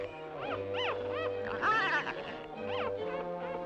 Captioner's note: seal pup squealing